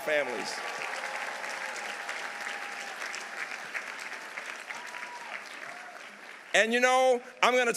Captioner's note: audience cheering; audience applauding